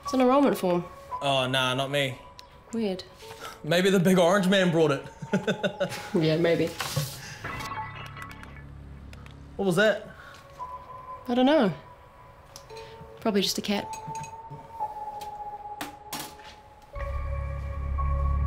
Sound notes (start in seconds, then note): 5.0 laughs; 15.5 dramatic music